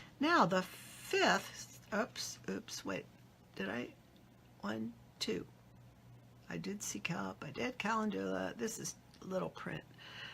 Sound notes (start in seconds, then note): none